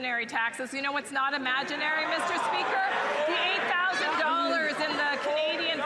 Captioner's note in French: voix de l'interprète